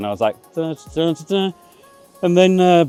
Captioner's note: hums happily